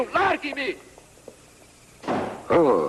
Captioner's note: door slams